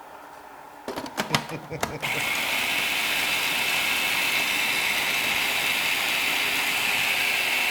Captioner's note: laugh